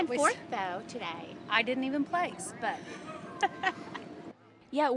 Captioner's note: laugh